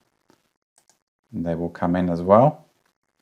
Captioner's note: mouse clicks